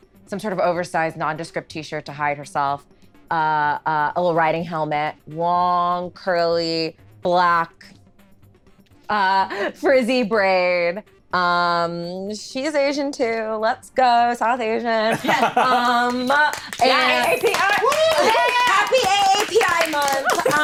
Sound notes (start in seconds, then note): 15.2 clapping